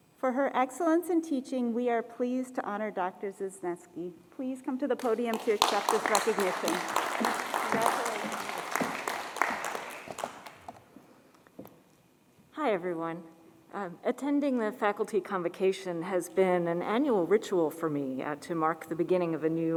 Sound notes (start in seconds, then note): 7.7 applause